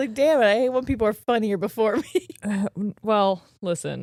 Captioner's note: laughing